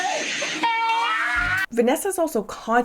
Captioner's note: friends cheer